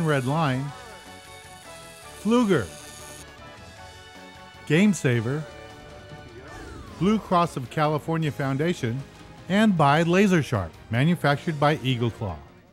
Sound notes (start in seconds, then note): 0.0 fishing line whirring